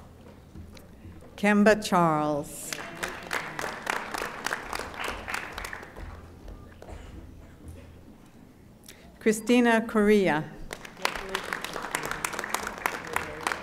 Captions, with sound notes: Kimba Charles. (audience applauding) Christina Correa. (audience applauding)